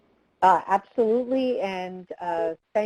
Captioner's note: voiceover